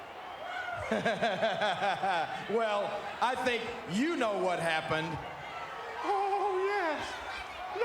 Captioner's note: laugh